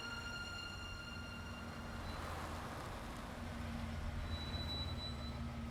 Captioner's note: car approaching; brakes whine